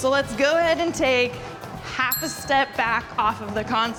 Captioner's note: bell dinging